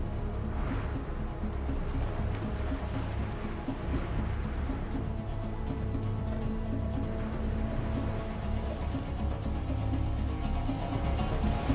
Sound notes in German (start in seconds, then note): none